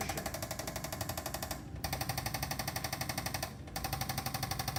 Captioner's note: tool clicks rapidly